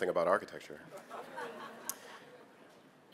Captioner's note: laughter